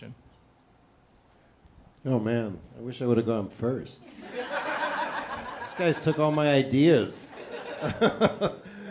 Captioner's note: laughter